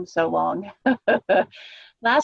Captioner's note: laughter